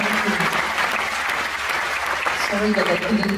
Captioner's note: applause